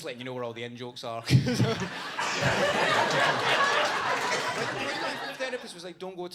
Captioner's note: audience laughs